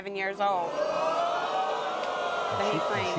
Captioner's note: audience groans